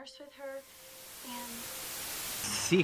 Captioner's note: loud TV static